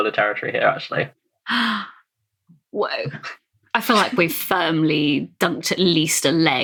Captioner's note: gasps